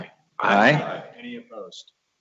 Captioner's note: multiple voices